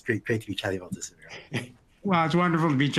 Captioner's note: chuckles